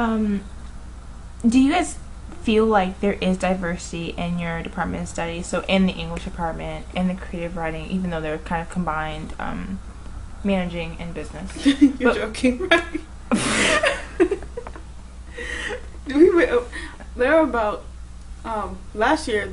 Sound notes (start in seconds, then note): 9.6 laughing